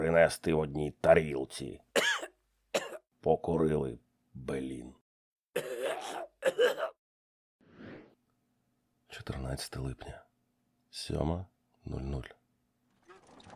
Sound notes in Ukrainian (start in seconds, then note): 5.5 Кхе-кхее